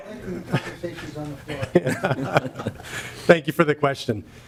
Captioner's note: laughter